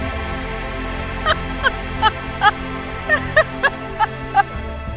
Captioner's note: both laughing